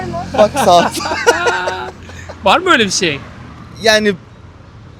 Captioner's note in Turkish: kahkaha